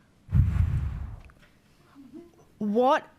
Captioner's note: exhales loudly